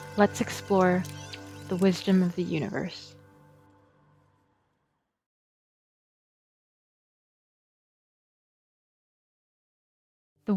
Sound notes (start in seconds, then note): 3.2 music and chirping stop; 6.2 silence